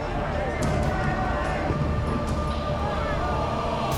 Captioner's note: crowd shouting indistinctly